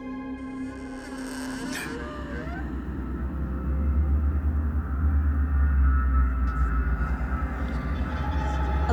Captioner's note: door creaking open